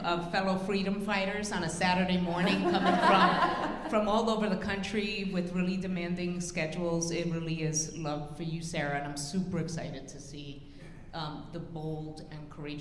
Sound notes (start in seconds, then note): 2.4 audience laughing